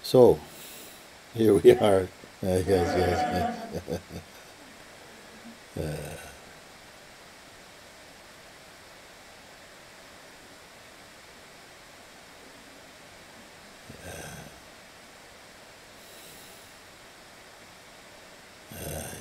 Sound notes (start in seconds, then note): 2.7 laughter; 5.0 silence